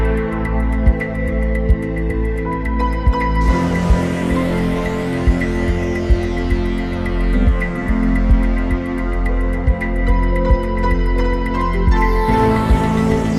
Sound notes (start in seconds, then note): none